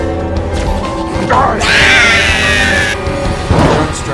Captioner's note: alien hurtling scream